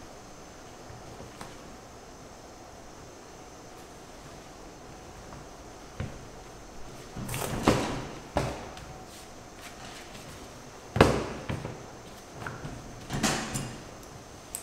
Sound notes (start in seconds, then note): 11.0 thud